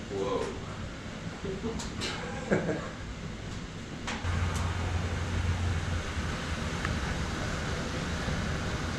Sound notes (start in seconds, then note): 4.2 loud boiling sounds